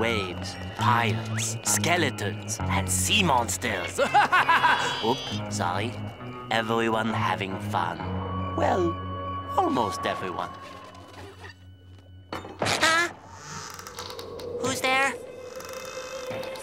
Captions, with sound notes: Pirates, skeletons, and sea monsters. [laughing evilly] Oop, sorry. Everyone having fun. Well, almost everyone. Huh? [creaking] Who's there? [creaking]